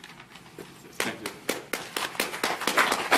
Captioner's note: applause